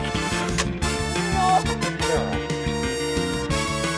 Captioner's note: groans